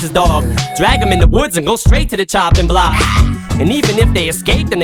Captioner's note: ahh!